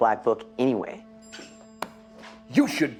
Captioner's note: slapping